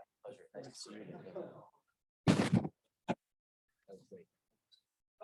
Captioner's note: men chattering; murmurs